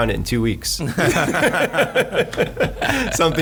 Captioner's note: laughing